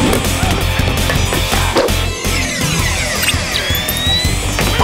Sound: grunting

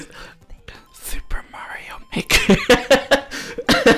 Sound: whisper

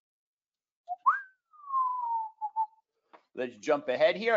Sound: whistling

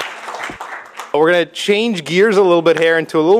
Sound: applause

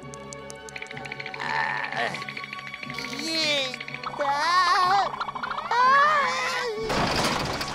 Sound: grunting

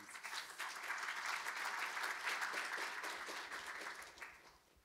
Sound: audience applauding

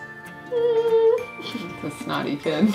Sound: upbeat music; laughing

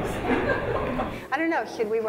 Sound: laughing

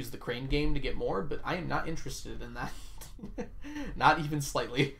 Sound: laughs

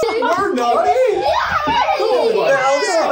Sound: children laughing

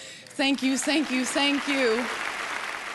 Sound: audience applauding

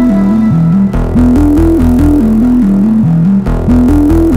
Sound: none

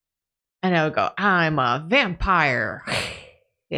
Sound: growl

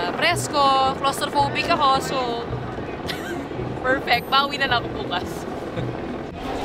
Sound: lauhgs

